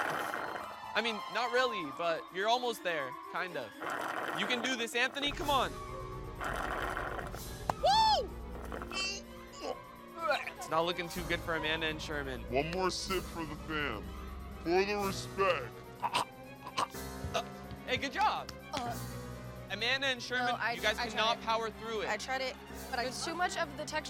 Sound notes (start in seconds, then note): 6.4 slurping; 8.5 retching; 15.7 retching